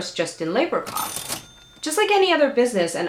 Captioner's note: kaching Sound